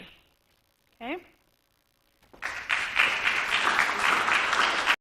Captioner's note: applause